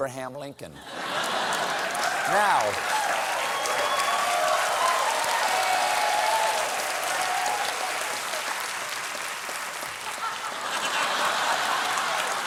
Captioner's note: applause; laughter